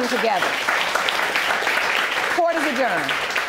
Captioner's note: audience applauding